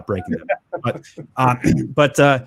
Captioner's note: chuckle